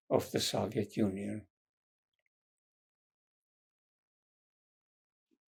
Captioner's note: pauses 6 seconds